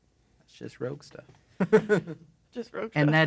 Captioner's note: laughs